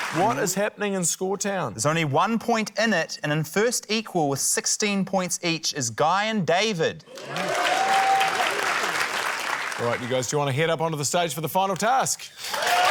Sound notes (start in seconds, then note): 7.1 cheering, applause